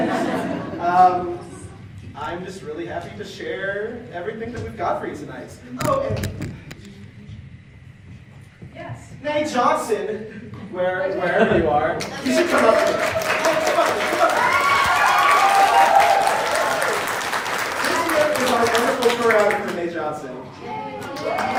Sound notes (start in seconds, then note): 6.3 friendly whispering; 12.0 applause